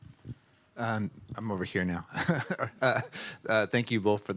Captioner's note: chuckles